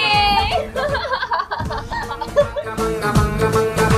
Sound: laughing

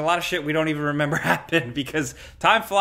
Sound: chuckles

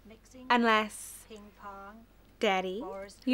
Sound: none

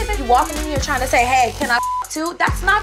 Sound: beep

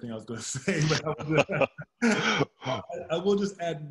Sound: laughs

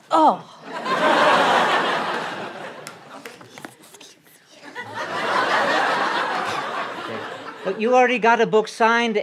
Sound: laughter

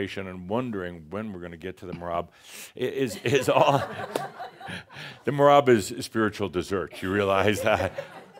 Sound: laughter

